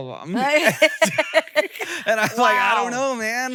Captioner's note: both laugh